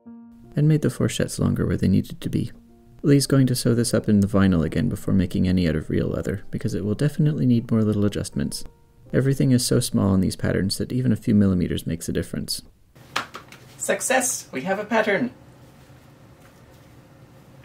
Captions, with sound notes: And made the fourchettes longer where they needed to be. Lee’s going to sew this up in the vinyl again before making any out of real leather, because it will definitely need more little adjustments. Everything is so small on these patterns that even a few mm makes a difference. (clapclapclap) "Success! We have a pattern.